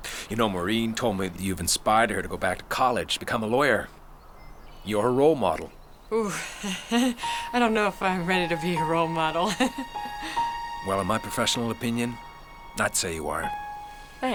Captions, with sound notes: - You know, Maureen told me that you've inspired her to go back to college and become a lawyer. You're her role model. - Ooh, (laughs) I don't know if I'm ready to be a role model. (laughing) - Well, in my professional opinion, I'd say you are.